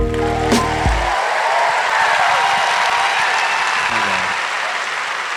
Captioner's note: applause